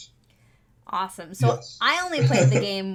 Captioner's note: chuckles